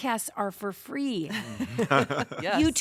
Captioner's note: laughter